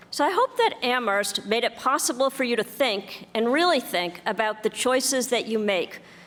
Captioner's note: none